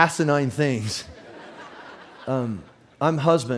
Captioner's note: audience laughs